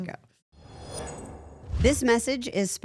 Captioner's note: logo whooshing